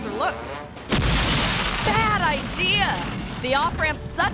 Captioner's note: concrete rumbling